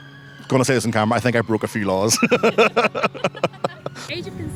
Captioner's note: laughter